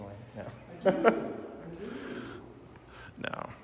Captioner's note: laughing